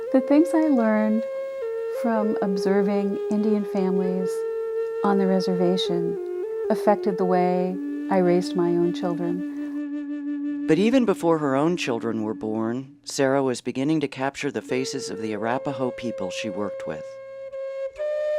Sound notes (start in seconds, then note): 10.9 voiceover; 17.2 gentle music